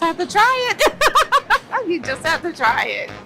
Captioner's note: laughs